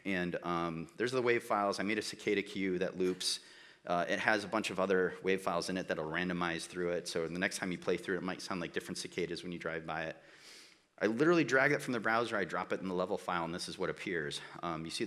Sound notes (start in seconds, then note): none